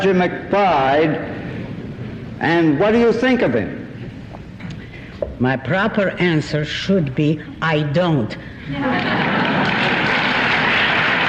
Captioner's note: applause